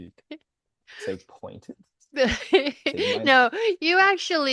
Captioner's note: laughs